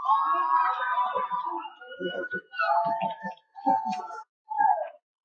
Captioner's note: cheering